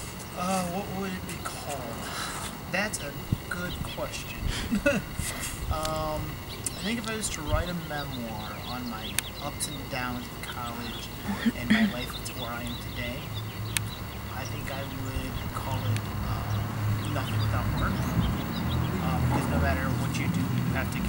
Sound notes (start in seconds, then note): 4.0 laughs; 11.3 camera woman clears throat